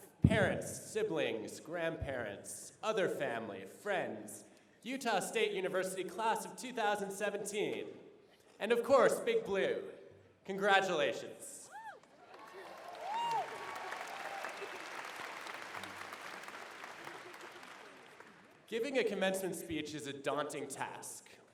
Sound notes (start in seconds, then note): 11.8 applause, cheering